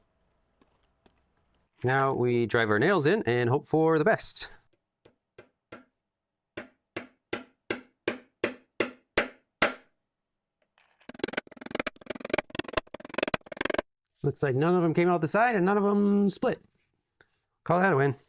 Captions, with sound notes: Now we drive our nails in and hope for the best. [hammering] Looks like none of them came out the side and none of them split. Call that a win.